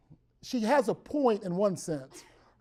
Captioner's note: cough in the background